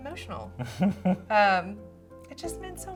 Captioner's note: laughs